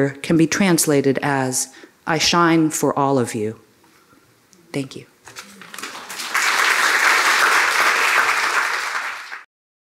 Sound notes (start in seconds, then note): 5.4 applause